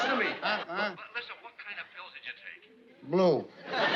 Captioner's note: on phone